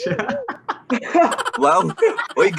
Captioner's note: laughing